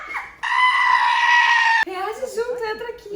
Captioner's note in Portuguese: Grito